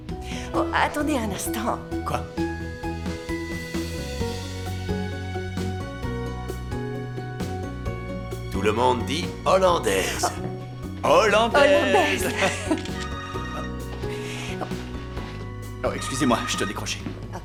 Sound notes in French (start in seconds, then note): 5.2 musique douce; 12.5 téléphone qui sonne